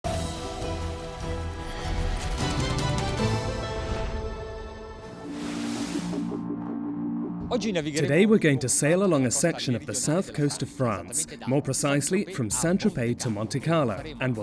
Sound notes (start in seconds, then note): 0.1 dramatic orchestral music; 7.4 speaking in foreign language